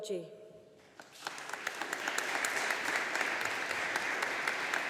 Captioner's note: audience applauding